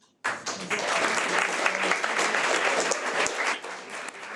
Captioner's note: audience applauding